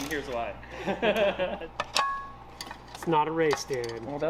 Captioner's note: laughs; both laughing